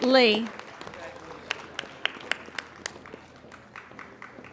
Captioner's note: applauding